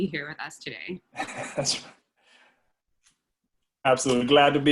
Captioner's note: laugh